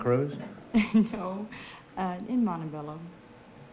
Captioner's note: chuckling